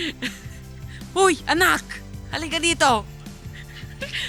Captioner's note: speaking non-english